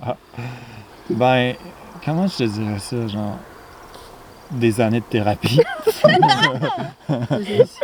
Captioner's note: laughs